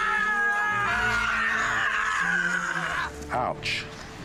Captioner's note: screaming